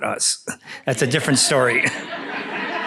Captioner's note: laughter